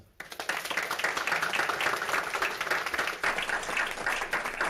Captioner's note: audience clapping